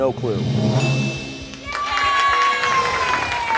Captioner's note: bell chimes